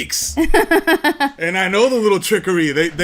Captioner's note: laughs